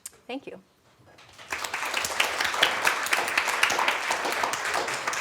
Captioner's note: applause